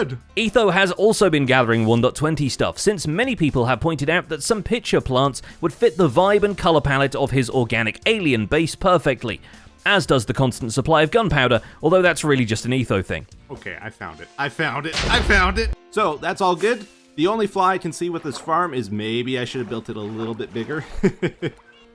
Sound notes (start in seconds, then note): 14.9 explosion; 16.5 creeper sizzles; 20.7 chuckles